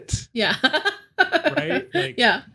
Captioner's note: laughing